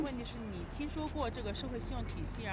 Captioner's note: speaking foreign language